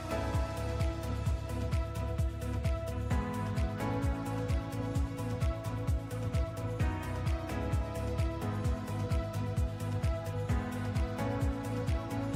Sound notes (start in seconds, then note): 0.8 speaking another language